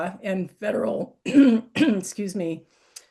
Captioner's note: clears throat